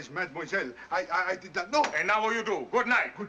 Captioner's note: stutters